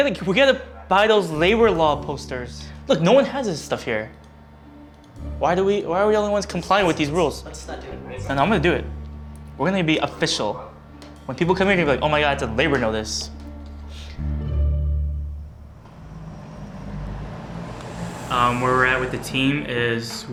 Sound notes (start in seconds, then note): 15.1 city traffic